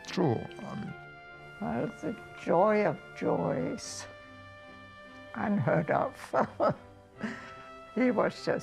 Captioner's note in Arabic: يضحك